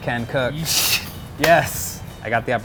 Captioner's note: hand clap